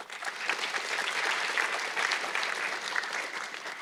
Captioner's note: audience clapping